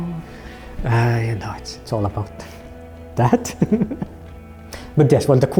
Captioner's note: chuckles